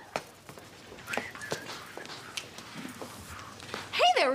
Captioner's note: whistling